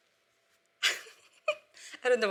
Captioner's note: laughing